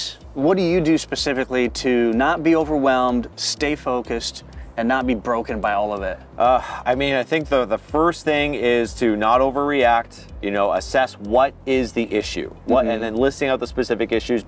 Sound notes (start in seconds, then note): 6.5 sighs